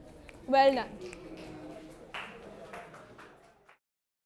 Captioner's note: students snapping and clapping